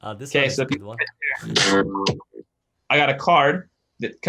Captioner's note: electronic feedback